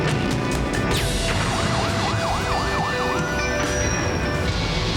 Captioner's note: siren wailing; gunshot whizzing; sultry music